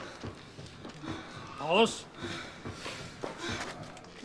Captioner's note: heavy breathing